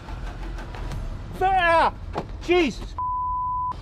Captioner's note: pitido